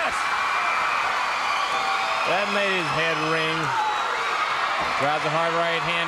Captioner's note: crowd cheering